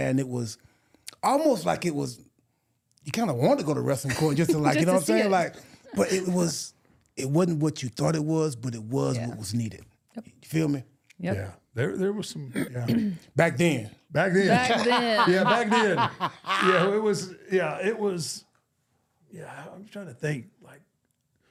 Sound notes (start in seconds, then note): 14.4 R-Truth laughing